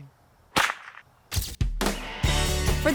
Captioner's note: whip crack